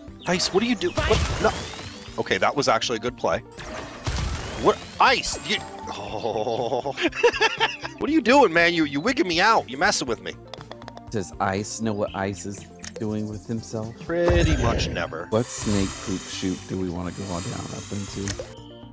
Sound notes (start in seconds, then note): 5.9 laughter